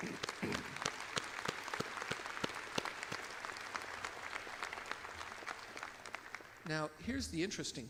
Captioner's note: audience applauds